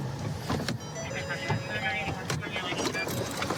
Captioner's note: car door chiming